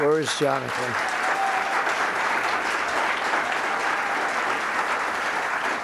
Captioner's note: applause